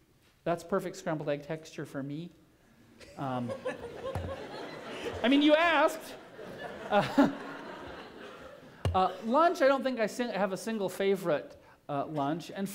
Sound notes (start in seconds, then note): 3.0 laughter